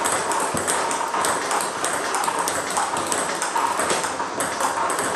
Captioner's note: ball ping pong hitting continues